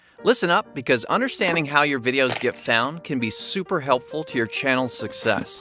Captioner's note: none